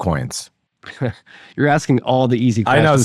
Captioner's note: laughing